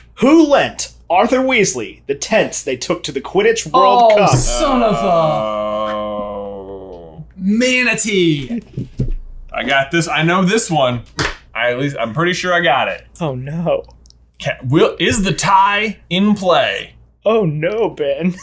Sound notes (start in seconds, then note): 6.2 groaning